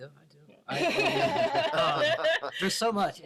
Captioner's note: all laugh